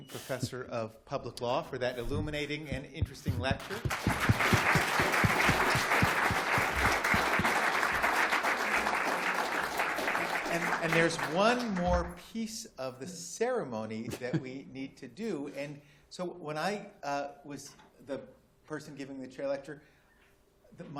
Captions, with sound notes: Professor of Public Law for that illuminating and interesting lecture. [APPLAUSE] And there's one more piece of the ceremony that we need to do. And so when I was the person giving the chair lecture,